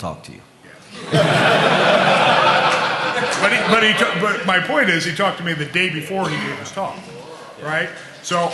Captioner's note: laughter